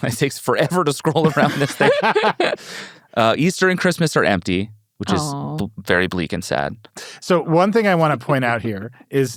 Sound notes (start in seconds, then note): 1.1 laughs